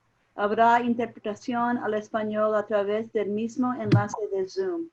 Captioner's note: speaking in foreign language